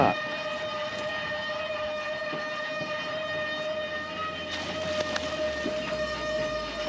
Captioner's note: horn blowing; fish splashing